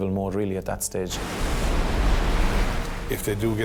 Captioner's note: waves roar